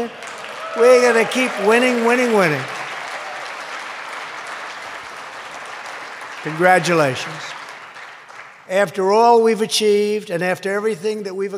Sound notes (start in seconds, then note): 2.5 applause